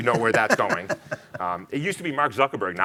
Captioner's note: laughing